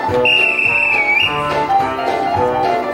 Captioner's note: upbeat jazz; whistle; upbeat jazz